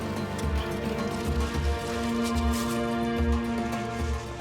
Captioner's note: sound of washing sand